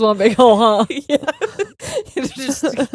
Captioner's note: laughing